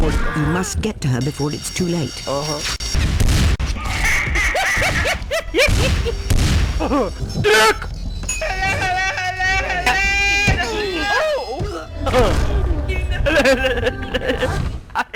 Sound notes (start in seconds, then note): 8.4 screams; 14.2 laughing